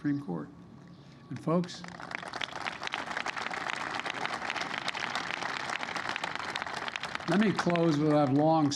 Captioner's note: applause